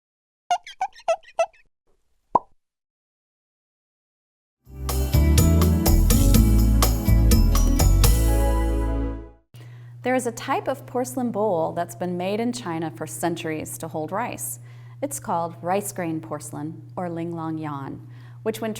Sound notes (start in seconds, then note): 0.5 squeaking; 2.3 pop